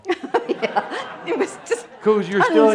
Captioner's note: giggling